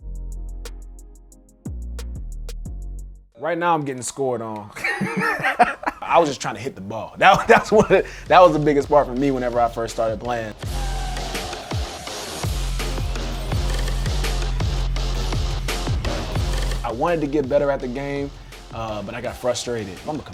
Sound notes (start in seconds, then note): 0.0 upbeat music; 4.7 laughing; 10.8 upbeat music